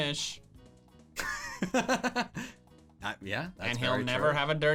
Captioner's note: laughing